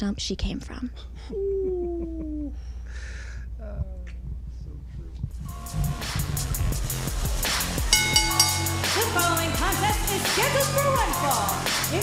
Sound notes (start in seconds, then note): 7.8 bell rings